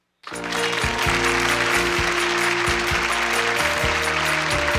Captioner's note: audience applause